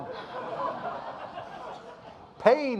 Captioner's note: audience laughing